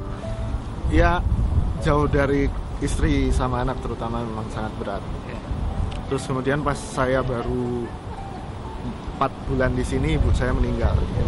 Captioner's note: non-english speech